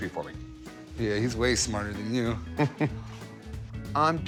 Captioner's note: chuckles